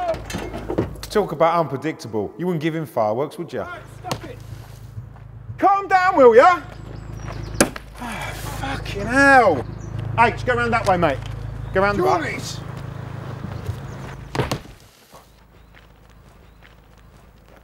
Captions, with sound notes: Woah! Talk about unpredictable. You wouldn't give him fireworks, would you? Calm down will ya! (glass smashes) H, go around that way mate, go around the back. (smashes)